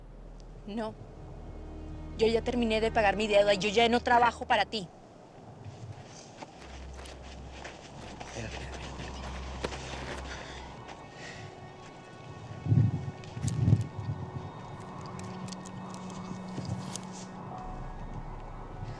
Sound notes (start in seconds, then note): 2.0 speaking spanish; 8.4 speaking spanish; 10.1 tense music